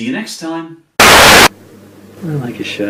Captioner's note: static